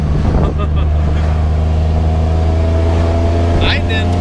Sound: laughs; engine revving

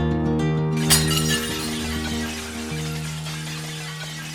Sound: falling Plates crashing

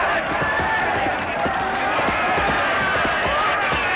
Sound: shouting

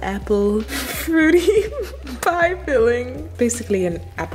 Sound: laughing

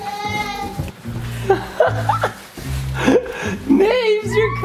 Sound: dad laughs

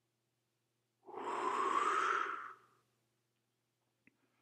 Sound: breath whooshing

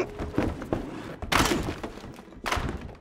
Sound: crashing floorboards

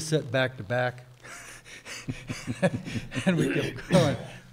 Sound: chuckles

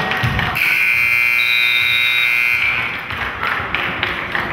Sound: buzzer goes off

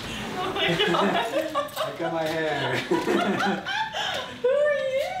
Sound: laughing

